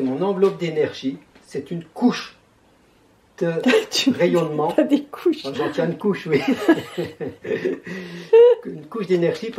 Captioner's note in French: Rire